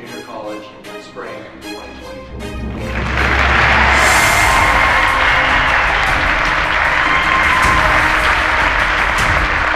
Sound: applause

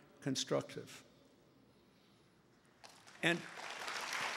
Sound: applause

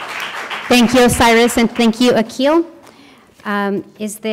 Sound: applause

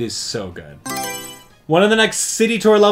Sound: Mario Selection Sound

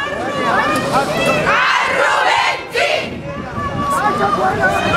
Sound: chants; chants

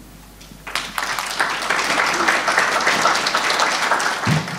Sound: audience applauds

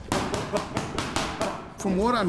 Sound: thumping

